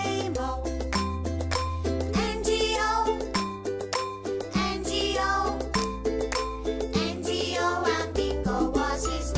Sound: clap

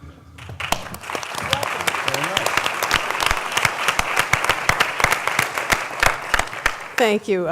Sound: applause

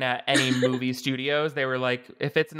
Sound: laughing

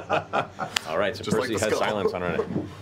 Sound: laughter

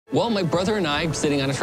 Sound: voiceover

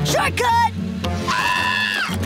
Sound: screaming

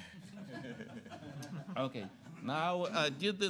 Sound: laughter

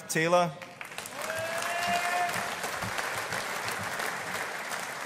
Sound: audience applauding

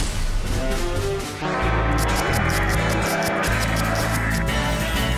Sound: military march; butterfly fluttering

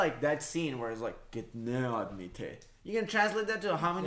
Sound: foreign Language

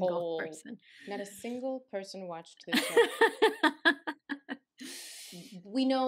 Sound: laughter

